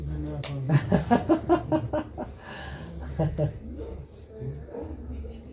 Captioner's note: laughing